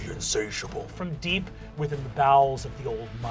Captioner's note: growly; normal voice